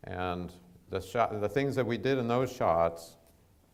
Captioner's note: none